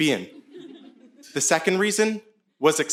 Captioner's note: audience laughing